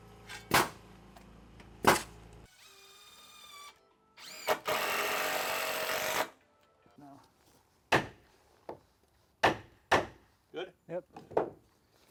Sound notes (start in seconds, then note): 4.2 drill whirring; 7.9 hammer pounding